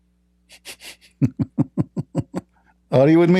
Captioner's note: Ketawa